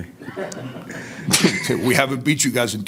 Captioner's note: laughing